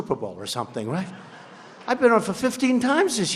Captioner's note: laughter